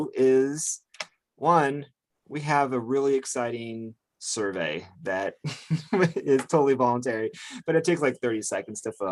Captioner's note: laughs